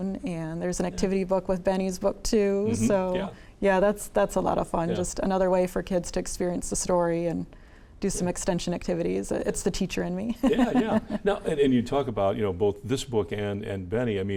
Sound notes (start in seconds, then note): 10.4 laughs